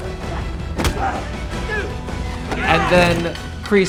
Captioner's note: men grunt